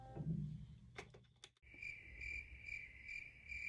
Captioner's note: crickets chirp